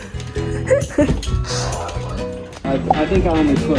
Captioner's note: laughing